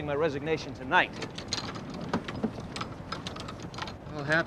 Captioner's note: golf clubs rattling